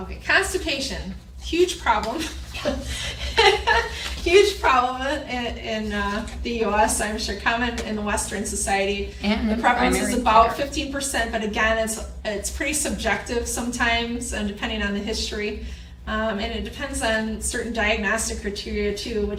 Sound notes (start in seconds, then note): 2.5 laughs